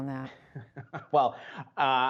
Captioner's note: laughter